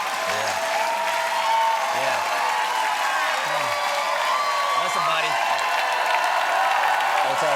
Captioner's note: cheers and applause